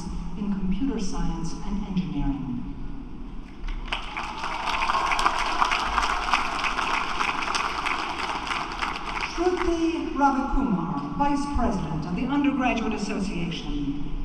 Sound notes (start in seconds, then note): 3.6 applause